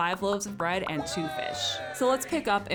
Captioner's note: people cheering